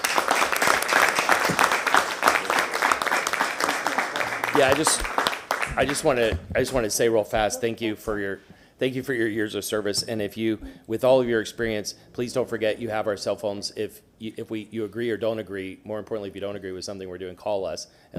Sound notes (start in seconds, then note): 3.0 applause